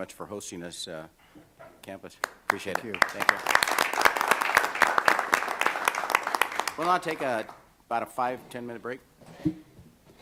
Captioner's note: applause